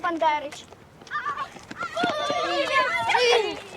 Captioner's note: friendly shouts